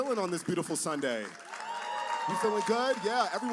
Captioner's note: cheers and applause